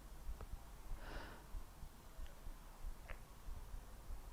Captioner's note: Leona sighs